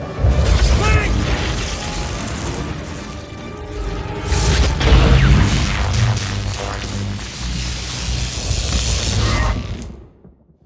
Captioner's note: lightning